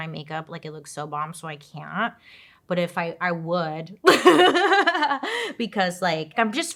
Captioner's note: laughs